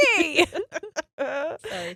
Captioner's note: laughing